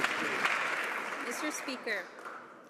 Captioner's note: some Applause